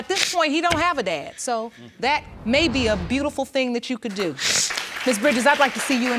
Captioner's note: sniffs